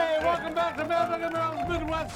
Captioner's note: grill sizzles